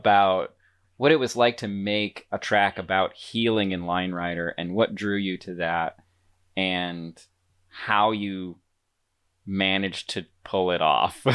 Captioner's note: laughs